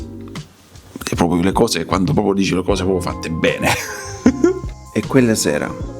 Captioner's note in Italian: risate